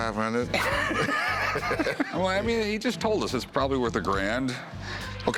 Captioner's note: laughter